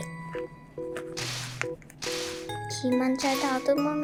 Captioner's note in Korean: 쓱싹쓱싹